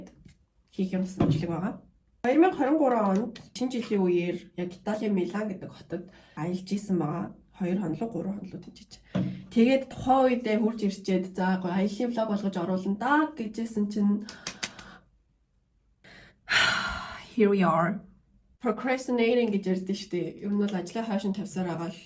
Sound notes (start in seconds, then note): 16.4 sigh